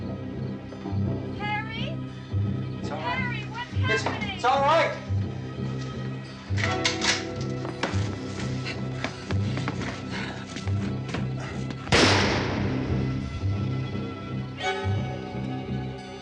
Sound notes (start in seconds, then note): 5.5 rifle cocks; 11.9 gunshot